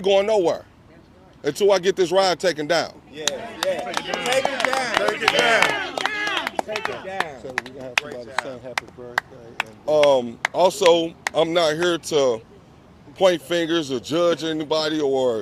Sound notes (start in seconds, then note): 7.4 applause